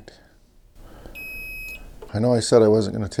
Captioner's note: beeping